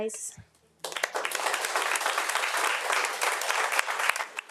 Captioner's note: audience applauding